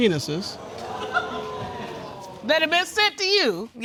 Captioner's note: audience gasping